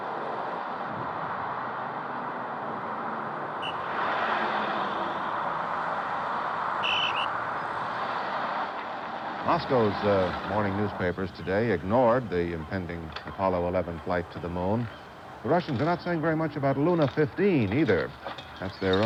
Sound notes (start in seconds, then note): 3.8 blowing whistle